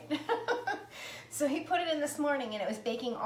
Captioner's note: laughs